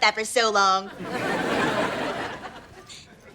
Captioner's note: laughs